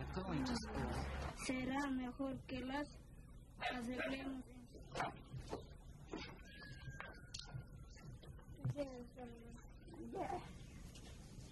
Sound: non-English narration

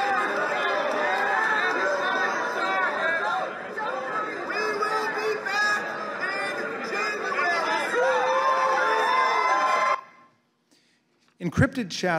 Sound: shouting

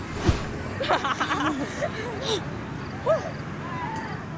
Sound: laughs

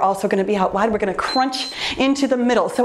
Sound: timer beeps

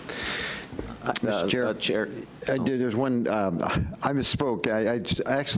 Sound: murmurs

